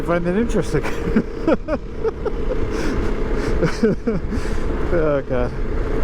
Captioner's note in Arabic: يضحك